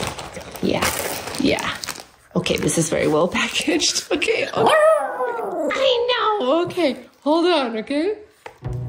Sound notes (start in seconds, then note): 4.6 dog howling